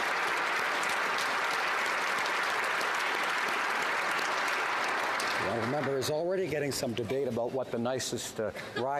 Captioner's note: applause